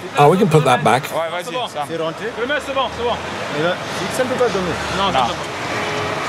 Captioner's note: foreign language